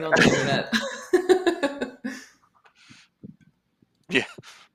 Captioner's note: laughter